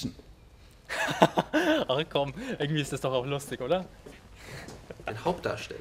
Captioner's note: laughs